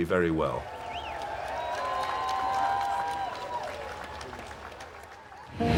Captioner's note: cheering